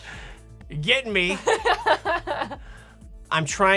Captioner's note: laughing